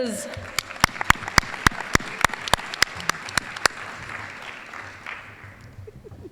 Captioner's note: applause